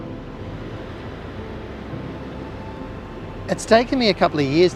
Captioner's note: waves swishing